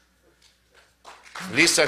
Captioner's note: applause